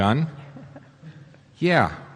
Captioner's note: chuckles